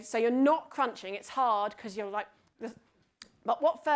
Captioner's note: smacks lips